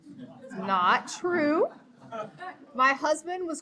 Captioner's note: audience laughing